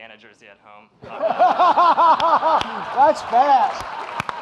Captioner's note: audience laughing